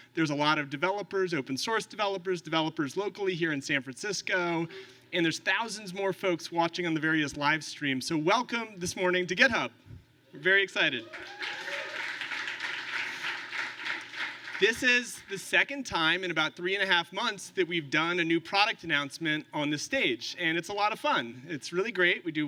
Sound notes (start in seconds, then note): 11.0 applause